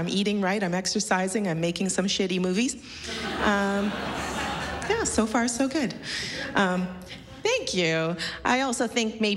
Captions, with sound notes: SO I'M DOING IT. I'M EATING RIGHT. I'M EXERCISING. I'M MAKING SOME SHITTY MOVIES. [LAUGHTER] YEAH, SO FAR, SO GOOD. -YOU LOOK GREAT! -THANK YOU!